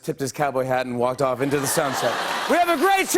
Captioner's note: laughter